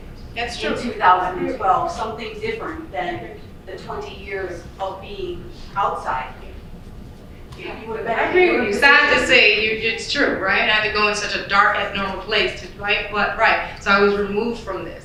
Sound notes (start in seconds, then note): 7.5 chattering from audience